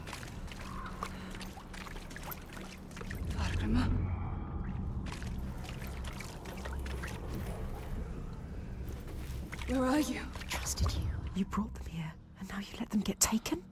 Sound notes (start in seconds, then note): 6.0 water splashing